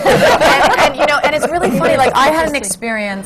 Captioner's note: laughter